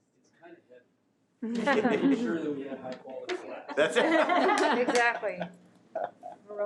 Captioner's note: audience laughing